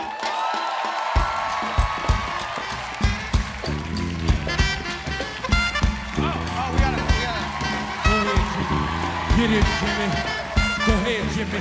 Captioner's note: cheers and applause